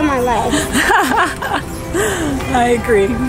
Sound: laughing

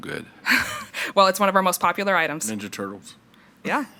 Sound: chuckles

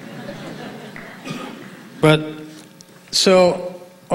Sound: audience laughing

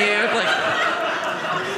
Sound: audience laughing

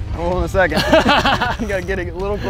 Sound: laughs

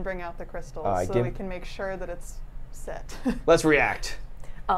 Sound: laughs

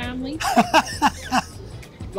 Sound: laughs

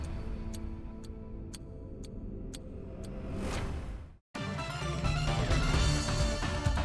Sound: clock ticking; powerful music

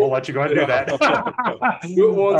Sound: both laugh

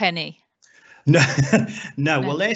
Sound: laughs

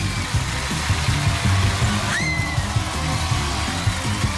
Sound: screaming

